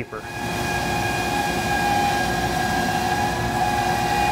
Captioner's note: machine whirring